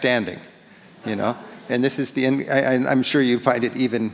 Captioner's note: audience laughs